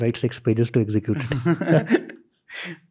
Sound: chuckles

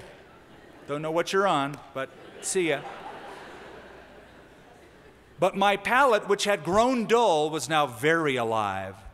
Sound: laughter

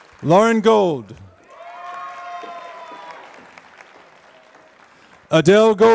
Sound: applause

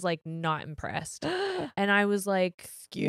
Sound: gasps

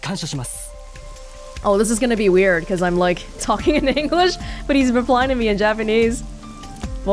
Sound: chuckles

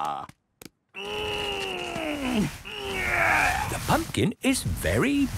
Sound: straining

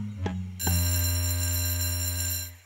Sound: school bell ringing

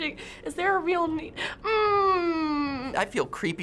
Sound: gasping

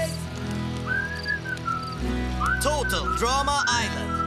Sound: whistling

